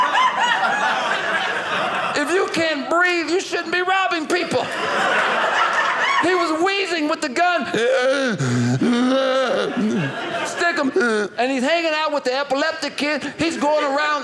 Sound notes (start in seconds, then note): 4.2 audience laughing; 7.8 wheezing